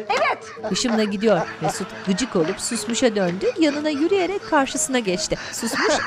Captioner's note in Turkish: Gülme sesi; Gülme sesi